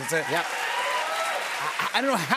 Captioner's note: cheers and applause